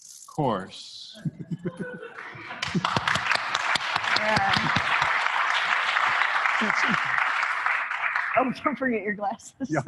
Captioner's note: applause